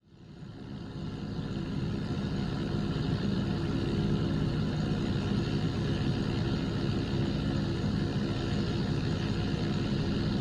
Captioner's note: airplane engine sound